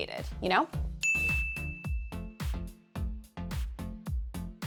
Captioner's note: bell chimes